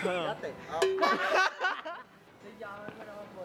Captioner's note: laughter